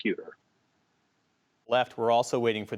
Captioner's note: audio gap